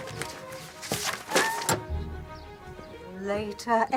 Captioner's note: kucing mengeong